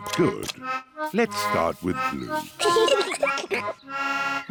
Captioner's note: both giggle